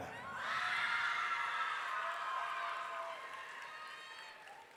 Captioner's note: audience cheering